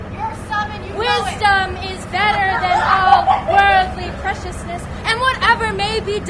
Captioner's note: laughter